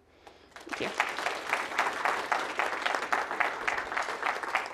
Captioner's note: clapping